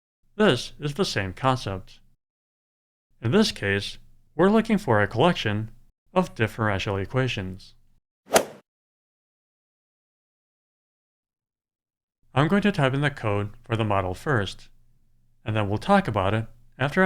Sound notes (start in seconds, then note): 8.3 swoosh